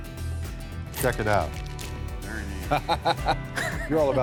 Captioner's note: laughs